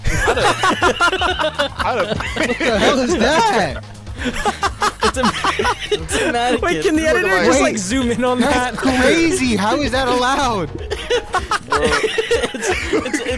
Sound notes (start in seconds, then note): 0.0 laughing; 11.1 laughing